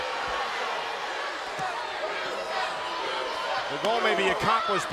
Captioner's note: crowd booing